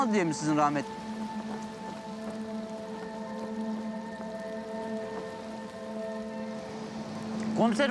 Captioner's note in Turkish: Müzik - Gerilim; Dalga sesleri